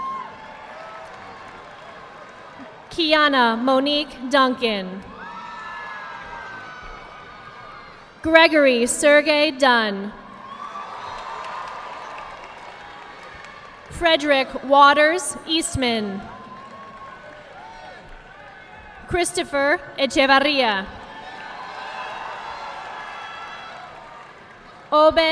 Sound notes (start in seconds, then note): 0.1 audience clapping; 5.6 audience clapping; 10.4 audience clapping; 16.2 audience clapping; 21.0 audience clapping